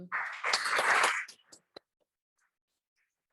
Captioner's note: applause